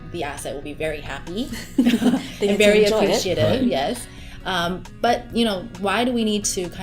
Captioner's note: laughter